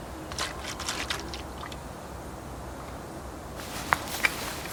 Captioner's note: water whirring